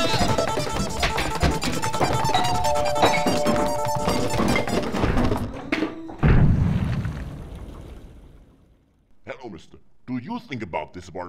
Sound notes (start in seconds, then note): 5.4 liquid pouring; 6.1 thud echos